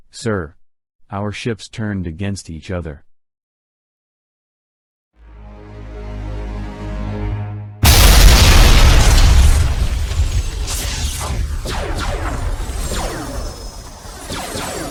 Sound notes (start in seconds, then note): 5.2 dramatic music; 7.8 explosions booming; 7.8 cannons blasting